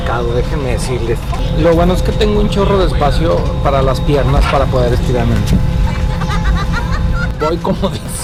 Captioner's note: sarcastic